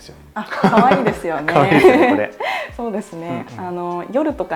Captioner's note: laughs